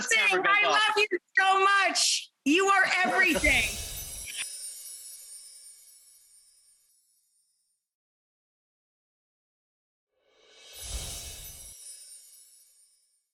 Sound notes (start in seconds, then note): 3.3 bells chiming